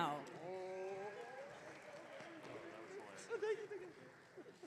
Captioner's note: audience cheering